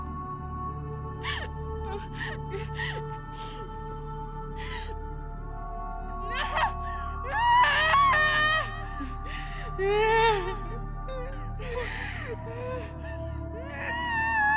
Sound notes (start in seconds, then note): 7.3 wailing